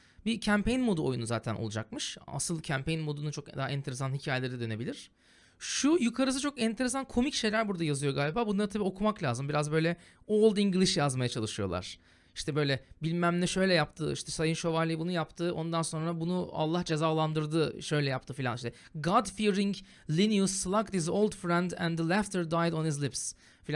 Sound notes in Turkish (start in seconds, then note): 10.4 eski İngilizce